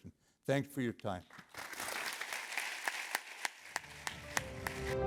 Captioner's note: applause